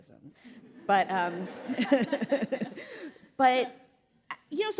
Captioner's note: audience laughing; laughs